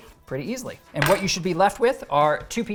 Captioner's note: knife banging on table